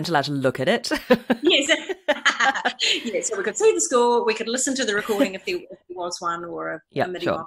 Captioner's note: laughs